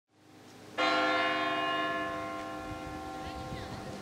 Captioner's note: bell ringing